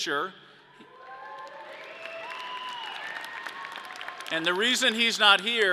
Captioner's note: audience cheering